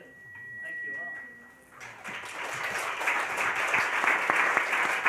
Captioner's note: applauding